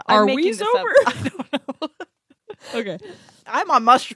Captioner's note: laughs